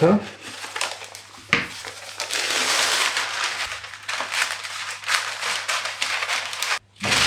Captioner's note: scrunch wrinkle rattle